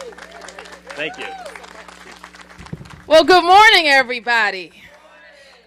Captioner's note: applause